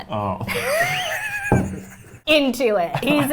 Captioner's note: laughs